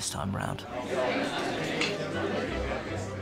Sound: chattering

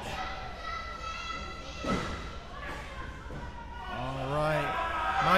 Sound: crowd yelling

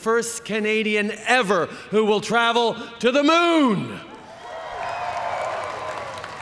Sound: cheering

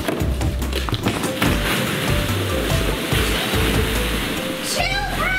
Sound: balls rustling

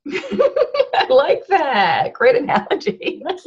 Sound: laughter

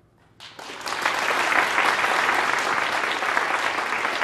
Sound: audience applauding

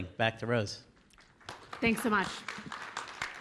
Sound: applause

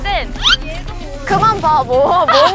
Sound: swoosh

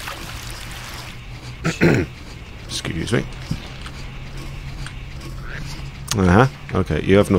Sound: clears throat

